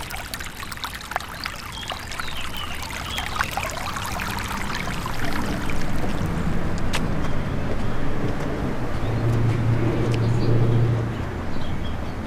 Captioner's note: stream softly gurgling